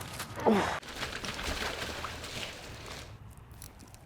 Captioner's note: splashing